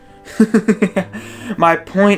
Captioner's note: laugh